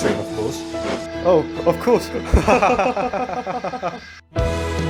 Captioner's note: Edward & Henry laugh